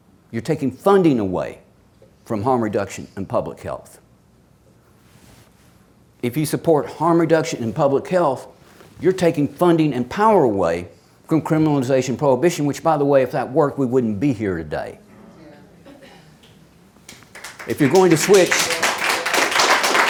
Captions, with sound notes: You're taking funding away from harm reduction and public health. If you support harm reduction and public health, you're taking funding and power away from criminalization and prohibition which, by the way, if that worked, we wouldn't be here today. (audience claps) If you're going to switch.